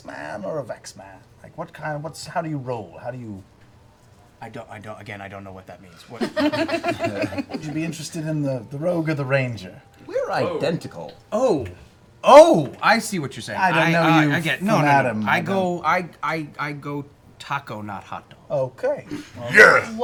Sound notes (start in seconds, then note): 6.1 laughter